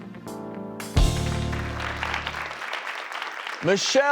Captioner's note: audience applauds